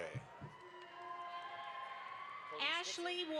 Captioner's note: audience applauds